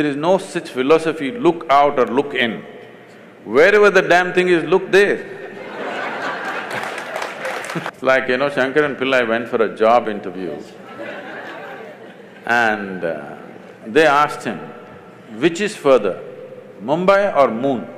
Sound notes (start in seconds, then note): 5.5 laughter/Applause; 5.5 笑聲/掌聲; 9.7 laughter; 11.8 笑聲